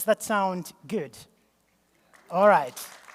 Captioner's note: applause